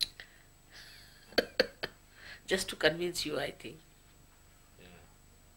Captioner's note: shri mataji laughs